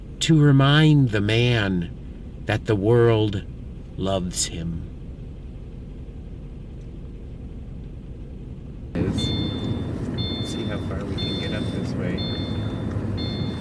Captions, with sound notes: "to remind the man that the world loves him." (car dinging) (car engine rumbling) See how far we can get up this way.